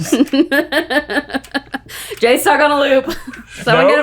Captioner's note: laughing